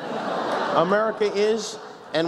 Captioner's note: laughs